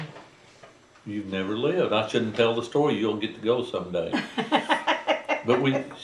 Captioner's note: laughter